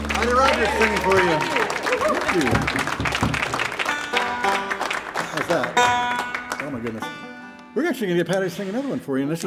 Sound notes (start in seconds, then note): 3.0 banjo tuning; 3.2 audience applauding